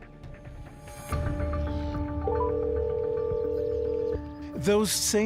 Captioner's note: phone ringing